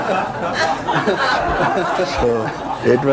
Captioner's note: laughter